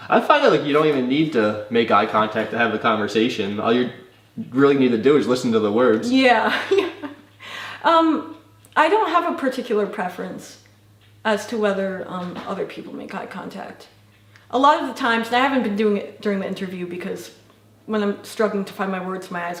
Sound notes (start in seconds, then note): 6.4 laughs